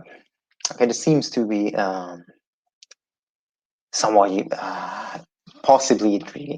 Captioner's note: sighs